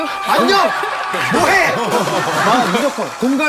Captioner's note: yelling; shouting